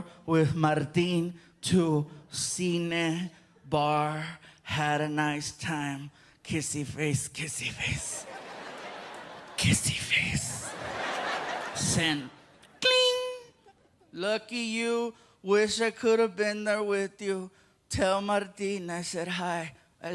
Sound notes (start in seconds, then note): 12.6 imitates cell phone chiming